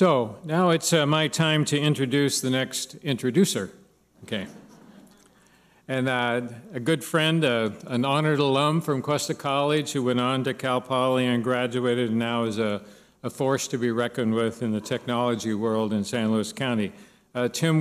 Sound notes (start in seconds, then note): 4.5 laughter